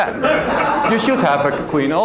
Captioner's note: laugther